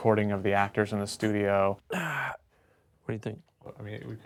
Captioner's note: grunts